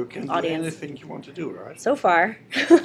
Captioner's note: laughter